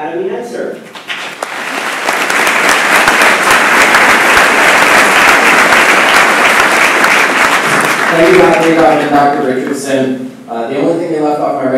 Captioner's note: applause